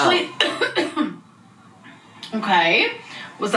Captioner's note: coughing